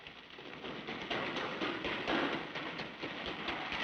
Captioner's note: footsteps echoing